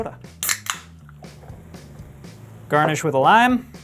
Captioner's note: can hissing; upbeat music